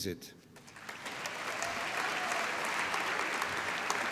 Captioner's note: applause